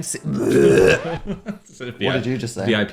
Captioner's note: gagging